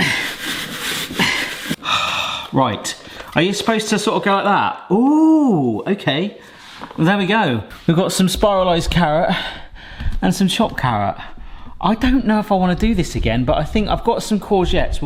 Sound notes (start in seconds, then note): 0.1 spiralizer scraping; 1.8 sighs